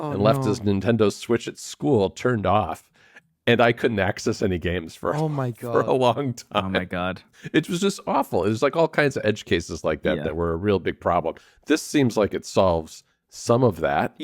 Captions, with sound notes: ... and left his Nintendo Switch at school turned off, and I couldn't access any games for- Oh, my God. ... for a long time. (laughs) Oh, my God. It was just awful. It was like all kinds of edge cases like that- Yeah. ... that were a real big problem. This seems like it solves some of that.